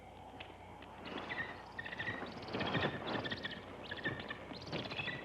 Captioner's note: bird chittering